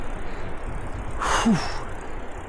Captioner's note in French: Soupir